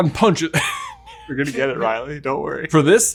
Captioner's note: laughs